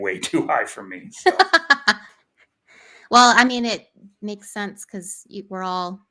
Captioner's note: laughs